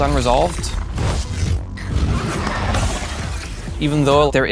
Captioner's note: electricity surges